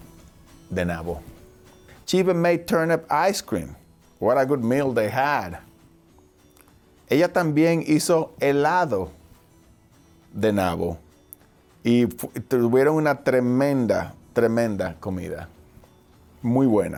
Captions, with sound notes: She even made turnip ice cream. What a good meal they had! (speaking foreign language)